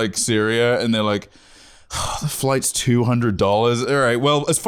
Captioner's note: sighs